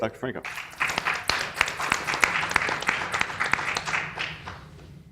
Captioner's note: people clapping